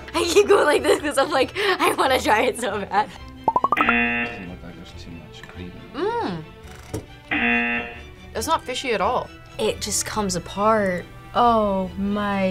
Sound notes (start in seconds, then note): 3.8 buzzer; 7.3 buzzer